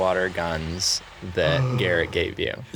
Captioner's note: gasping